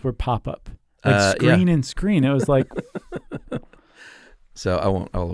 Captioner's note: laughs